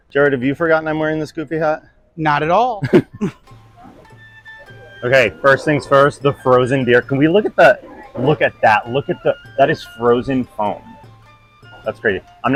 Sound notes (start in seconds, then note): 2.9 chuckling; 3.5 upbeat and airy music